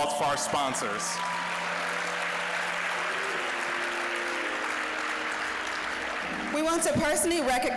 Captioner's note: applause